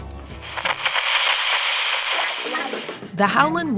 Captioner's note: radio crackles; upbeat music plays